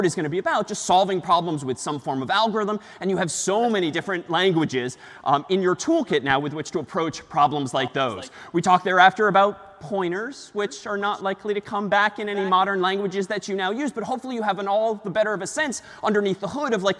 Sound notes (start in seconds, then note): none